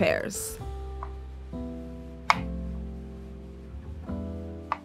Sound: knife chopping

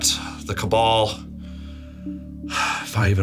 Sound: sighs

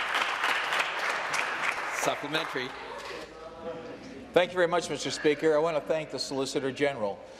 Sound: applause

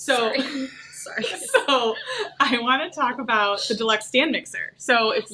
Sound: laughs

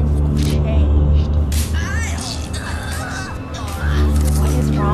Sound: grunting

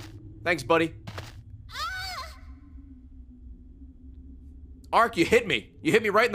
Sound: screams

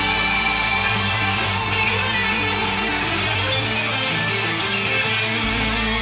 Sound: audience cheering and applauding

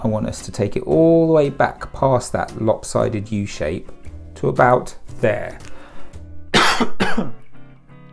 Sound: cough

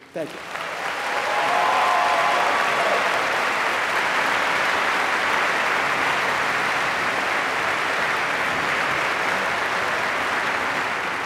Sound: applause

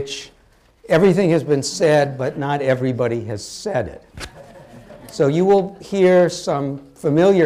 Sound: laughter

